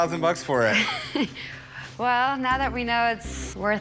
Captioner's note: chuckles